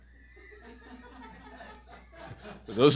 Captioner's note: audience laughing